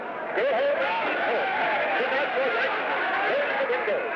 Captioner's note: crowd yelling & commotion